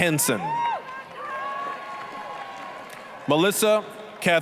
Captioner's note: applause, cheering